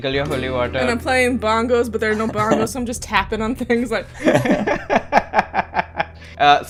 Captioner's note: laughter